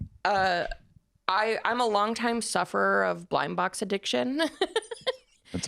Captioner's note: laughs